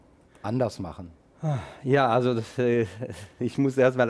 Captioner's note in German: seufzt